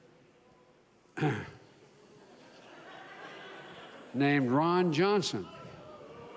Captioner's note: clears throat; laughter